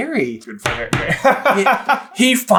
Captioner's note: laughs